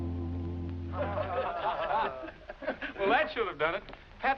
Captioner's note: laughing